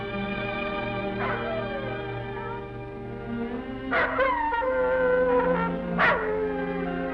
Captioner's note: gentle music; wolf howling